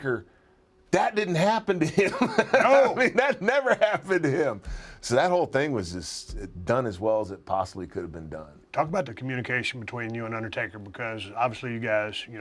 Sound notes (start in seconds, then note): 1.9 laugh